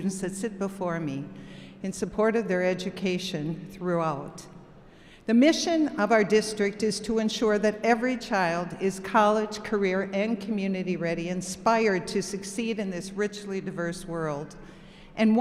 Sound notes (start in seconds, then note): none